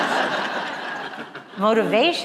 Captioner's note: laughter